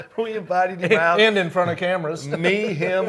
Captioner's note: laughs